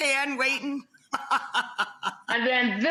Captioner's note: laughs